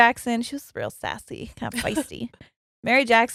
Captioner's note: laughs